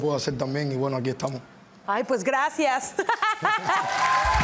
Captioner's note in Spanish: Ríe